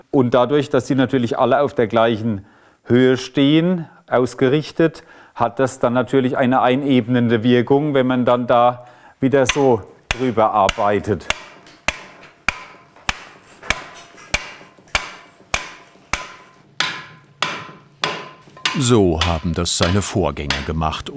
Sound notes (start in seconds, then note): none